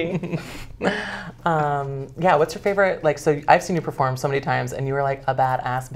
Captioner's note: laughs